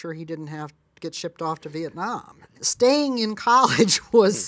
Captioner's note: laughs